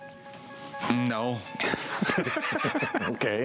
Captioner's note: laughter